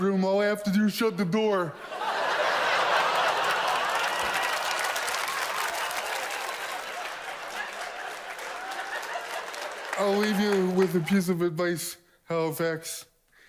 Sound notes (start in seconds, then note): 1.7 audience laughs loudly; 6.9 applause